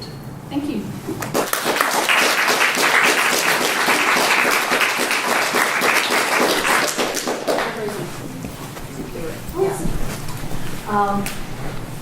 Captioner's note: applause